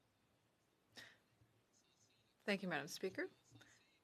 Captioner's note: speaking French